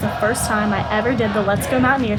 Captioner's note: crowd cheering